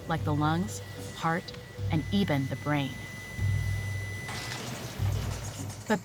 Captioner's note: EKG flatlining